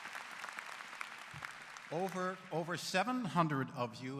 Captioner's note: applause